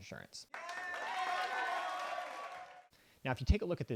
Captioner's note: crowd cheering